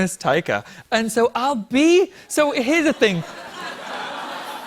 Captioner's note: laughter